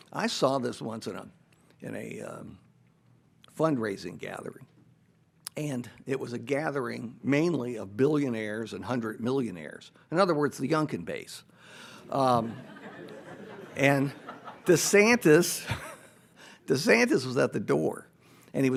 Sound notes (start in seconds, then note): 12.0 audience laughs